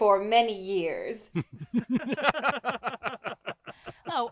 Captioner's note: laughter